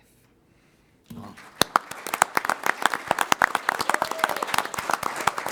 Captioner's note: applause